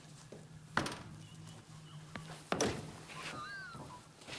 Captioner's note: van door clicks; van door clatters